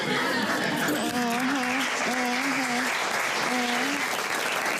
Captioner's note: audience laughs